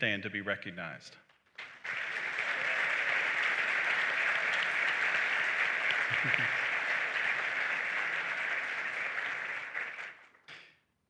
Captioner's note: applause